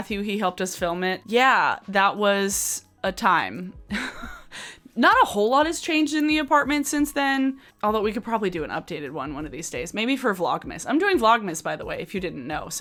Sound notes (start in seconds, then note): 3.9 chuckles